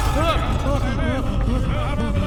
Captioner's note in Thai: เสียงผู้คุมวิ่งมาต่อเนื่อง